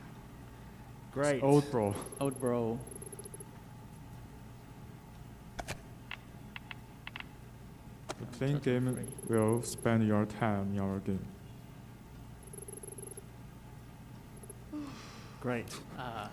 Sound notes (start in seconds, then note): 2.9 text beeping; 6.5 game clicking